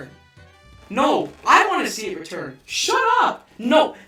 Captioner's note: double voice